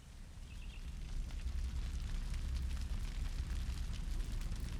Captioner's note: fire roars and crackles